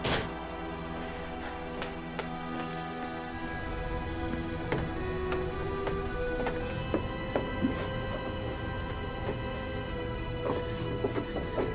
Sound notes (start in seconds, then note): 2.9 insects chirping; 4.8 gentle music